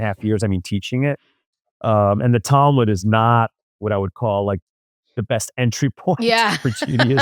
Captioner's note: laughs